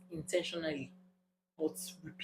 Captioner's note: paause